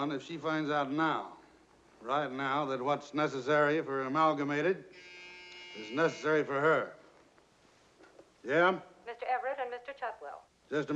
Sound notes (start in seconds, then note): 5.0 intercom buzzes